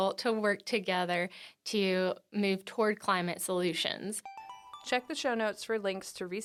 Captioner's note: chime